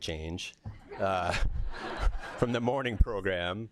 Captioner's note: laughter